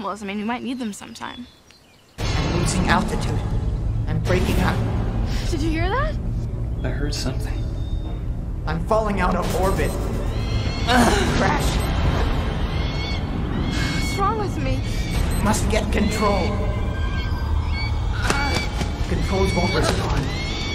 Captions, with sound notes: Plot justification for a later scene. Stock footage makes me nauseous too *beepbeep* Almost positive that sound is from a cheap digital watch